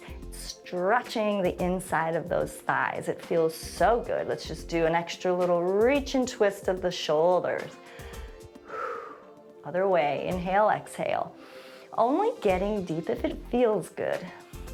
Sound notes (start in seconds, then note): 7.8 exhales; 11.2 inhales